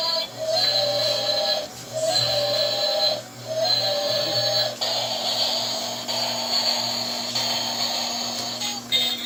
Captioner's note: train sounds